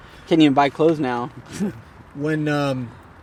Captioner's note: chuckles